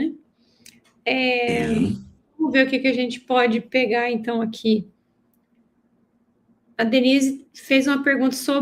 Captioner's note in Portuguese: limpando a garganta